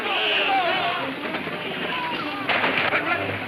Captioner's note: men shouting